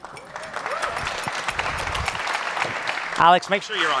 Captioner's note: audience applauding